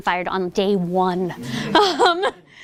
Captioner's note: laughter